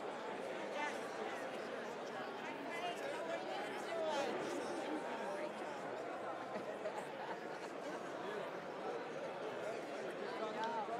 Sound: indistinct chatter

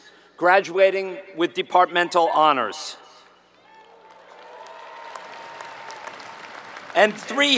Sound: applause

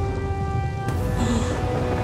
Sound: gasping

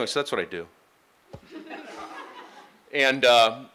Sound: laughing

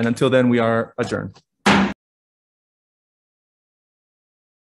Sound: gavel slams

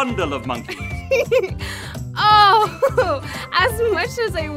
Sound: laughing

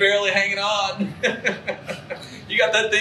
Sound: laughs

